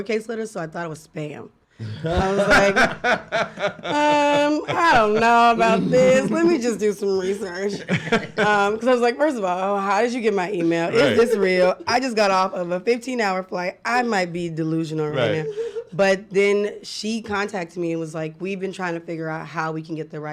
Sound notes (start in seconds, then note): 1.8 laughing